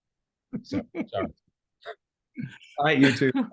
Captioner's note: laughing